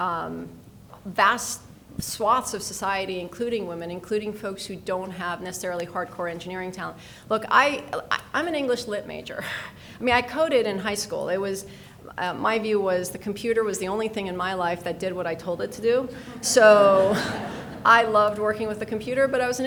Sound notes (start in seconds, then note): 15.5 people laughing